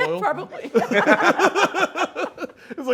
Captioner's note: laughter